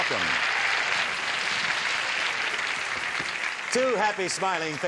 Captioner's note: cheering, applause